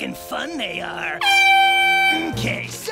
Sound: airhorn blows

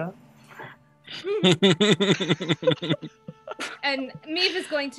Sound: cast laughs

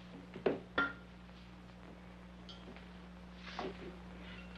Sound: bottle clinking

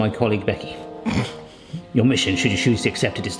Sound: snorting

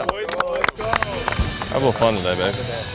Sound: clapping

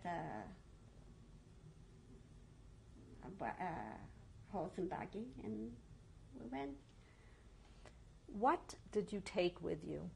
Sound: pauses for 3 seconds

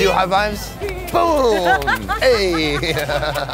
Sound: laughs

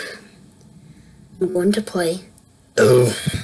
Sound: burp

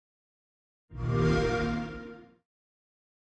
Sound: Xbox Sound

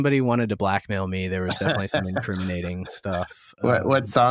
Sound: laughter

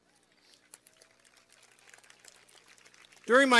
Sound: applause

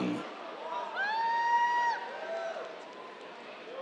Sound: cheers

